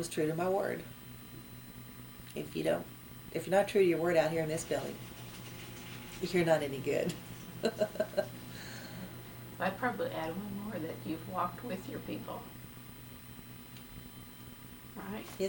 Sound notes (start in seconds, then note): 7.6 laughs